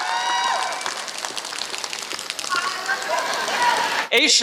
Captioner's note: applause